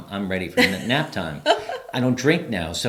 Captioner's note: laughs